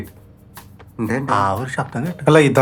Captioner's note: murmuring